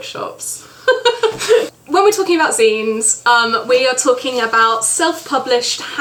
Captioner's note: laughs